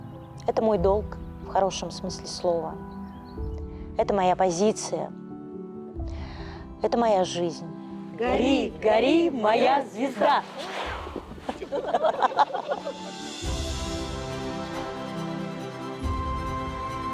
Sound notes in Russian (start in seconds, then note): 8.6 хором; 11.2 звучит смех; 13.9 звучит фоновая музыка